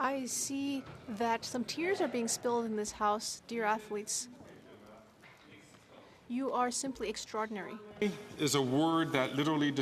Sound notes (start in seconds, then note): 3.3 speaking French